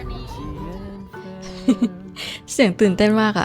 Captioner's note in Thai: หัวเราะ